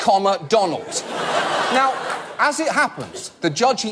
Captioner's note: audience laugh